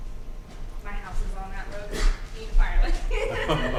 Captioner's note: laughs